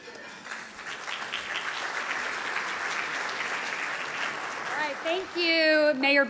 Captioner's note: audience applauding